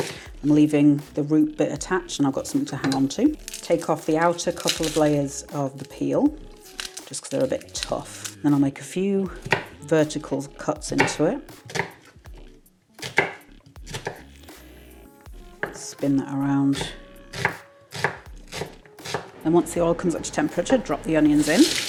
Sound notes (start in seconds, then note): 7.5 papery rustle; 13.0 chop chop chop; 17.3 chop chop chop